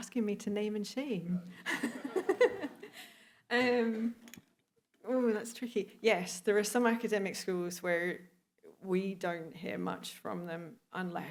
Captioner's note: laughter